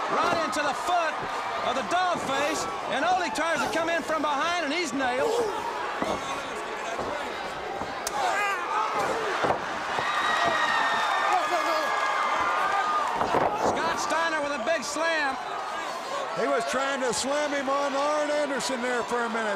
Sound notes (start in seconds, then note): 9.1 crowd cheering